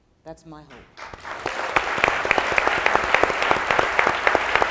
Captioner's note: applauding